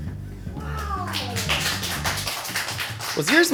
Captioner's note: crew applauding